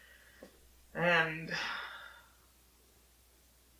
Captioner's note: sighs